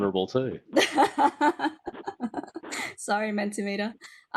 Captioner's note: laughing